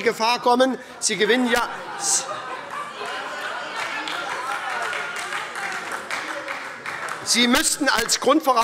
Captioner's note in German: Heiterkeit und Beifall bei der SPD